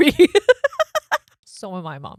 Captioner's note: laughs loudly